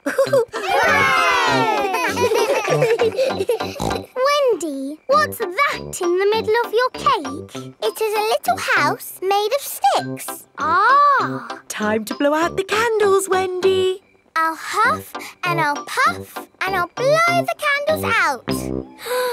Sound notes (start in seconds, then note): 0.0 chuckles; 0.0 laughing; 2.7 snorts